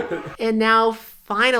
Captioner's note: the straights laugh